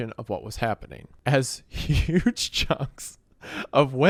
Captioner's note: laughing